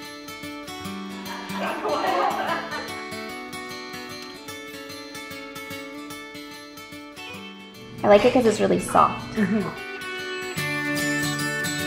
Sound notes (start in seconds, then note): 1.1 laughing